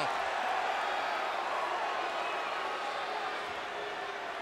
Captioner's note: crowd chatter